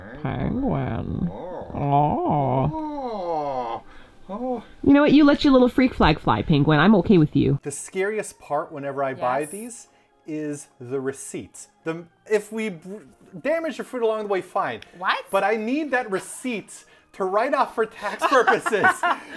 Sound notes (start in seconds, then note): 2.3 nasally; 18.2 laughs